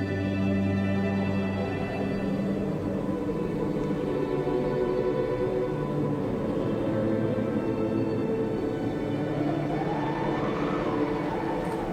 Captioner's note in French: Sifflement du vent